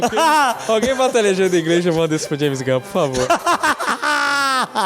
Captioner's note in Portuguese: risos